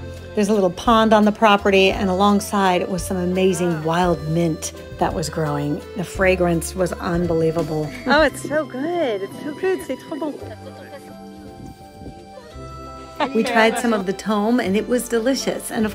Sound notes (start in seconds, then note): 10.0 woman speaking in foreign language